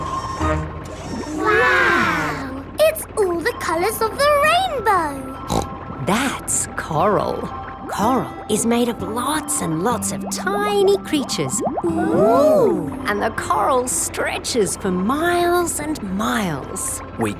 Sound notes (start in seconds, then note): 5.4 snorts